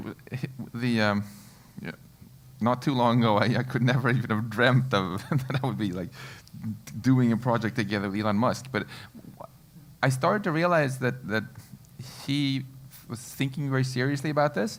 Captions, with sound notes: Not too long ago I could never even have dreamt that I would be like [LAUGH] doing a project together with Elon Musk. But I started to realize that he was thinking very seriously about this.